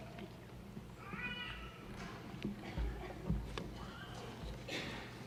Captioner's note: baby yelling